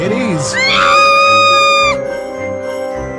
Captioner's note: host screams